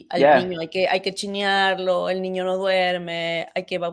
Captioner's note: speaking in Spanish